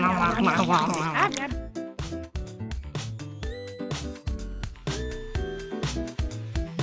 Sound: sighs

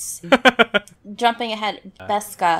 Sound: laughs

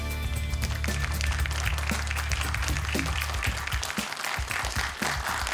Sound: applause

